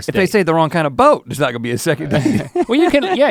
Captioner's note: chuckles